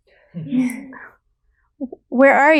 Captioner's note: laughing